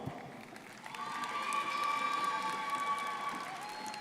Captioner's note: crowd applauding